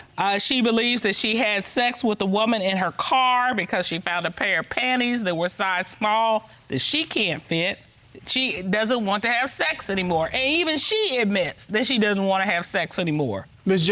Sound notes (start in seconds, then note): none